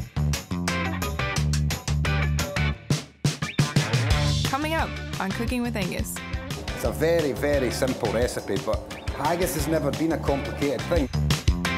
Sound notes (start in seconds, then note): 0.2 upbeat funky music; 6.8 with Scottish accent; 11.6 upbeat funky music